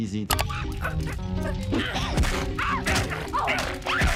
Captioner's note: Handy grunting